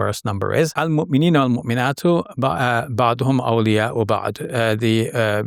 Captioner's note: speaking Arabic